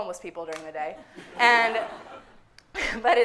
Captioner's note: audience laughing